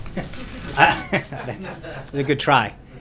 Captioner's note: laughter